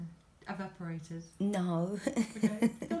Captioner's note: laughs